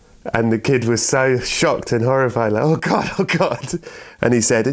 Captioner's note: laughter